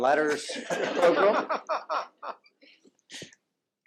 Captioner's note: laughter